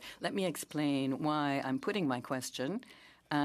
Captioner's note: speaking French